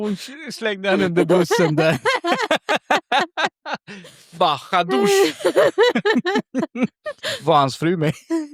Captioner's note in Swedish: skratt; skratt